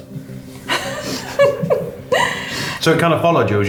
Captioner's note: laughing